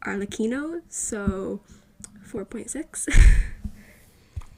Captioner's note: laughs into the mic like an IDIOT